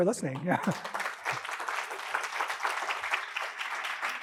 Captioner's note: audience applauding